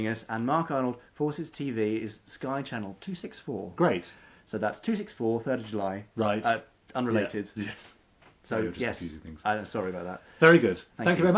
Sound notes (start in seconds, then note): none